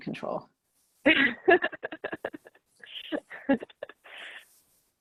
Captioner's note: laughing